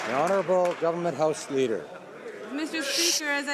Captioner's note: some Applause